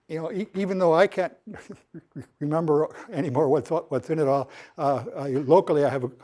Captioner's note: laughter